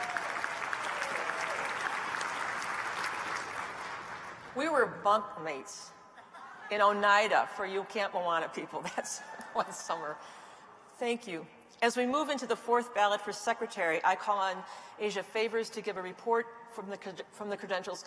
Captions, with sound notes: I take upon myself the mantle of Congregational leadership. [ Applause ]